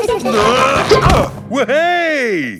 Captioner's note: all giggling; grunting